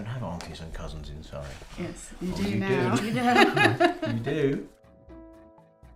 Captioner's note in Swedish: skratt